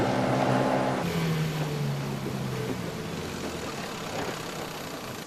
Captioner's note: dinghy's engine whirrs